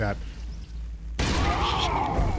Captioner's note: gunshot